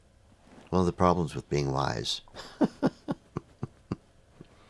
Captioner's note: laughs